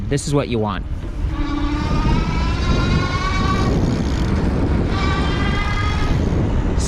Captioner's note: bicycles electric motor roaring